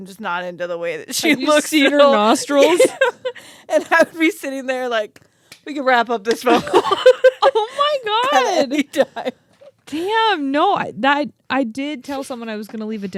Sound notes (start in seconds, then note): 6.4 laugh